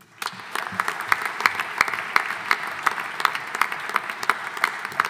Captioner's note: audience applauding